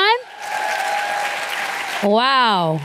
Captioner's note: applause